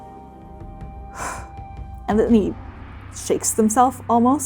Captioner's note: exhaling